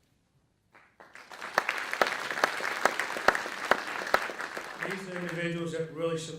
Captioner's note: audience clapping